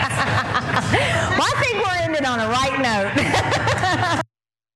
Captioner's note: laugh